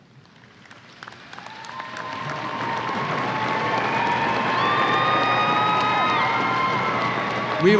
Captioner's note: applause and cheers